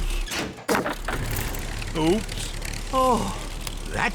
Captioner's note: crunching